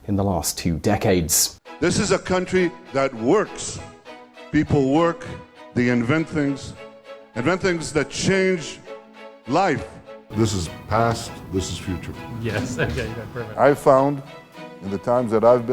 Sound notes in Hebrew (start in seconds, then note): 10.4 צוחק